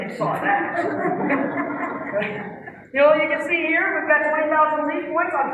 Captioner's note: laugh